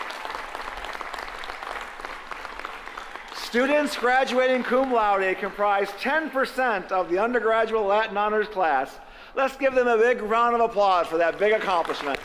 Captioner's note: applause